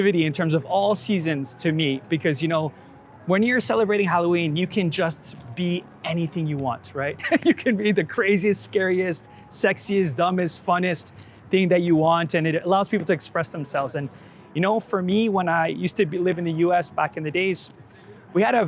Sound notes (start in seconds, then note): 7.2 laughs